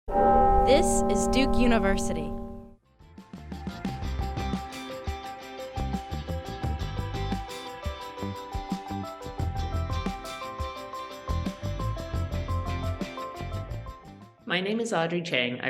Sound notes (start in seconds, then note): 0.1 bell tolls; 3.4 cheerful music